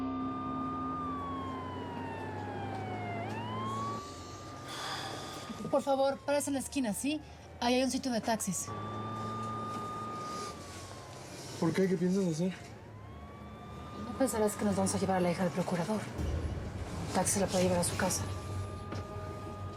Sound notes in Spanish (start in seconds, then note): 0.2 sirena de la ambulancia; 9.2 sirena de la ambulancia